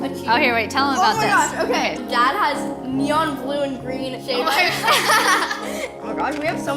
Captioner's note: laughs